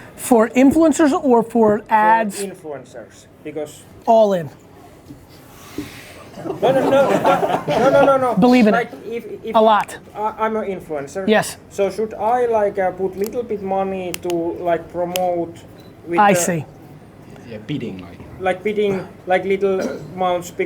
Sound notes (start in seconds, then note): 6.2 group laughs